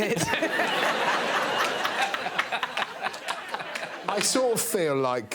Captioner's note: all laughing